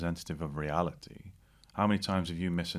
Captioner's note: none